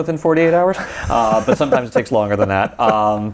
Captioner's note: laughs